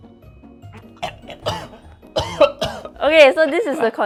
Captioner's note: chokes